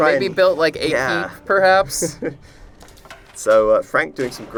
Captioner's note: laughter